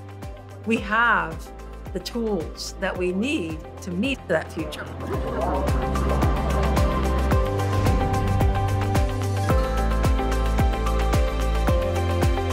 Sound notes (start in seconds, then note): 4.8 people chattering; 5.2 bright music